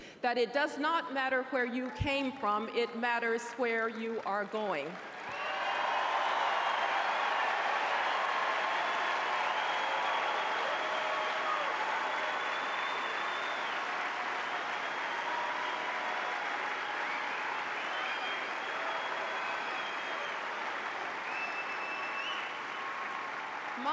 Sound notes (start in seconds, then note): 5.2 applause